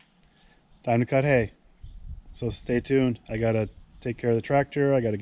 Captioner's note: none